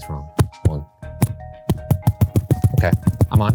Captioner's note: mic tapping